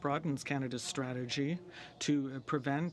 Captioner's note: speaking in french